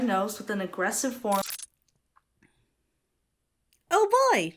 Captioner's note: audio glitches